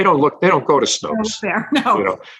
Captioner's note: agrees and laughs